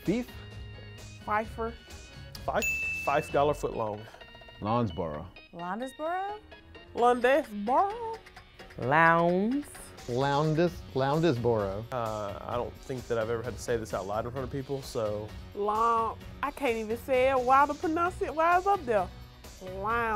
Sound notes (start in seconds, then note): 2.5 bell chimes